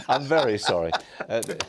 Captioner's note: laughter